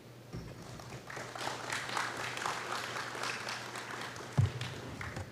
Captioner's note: applause